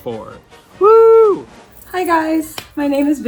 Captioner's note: cheering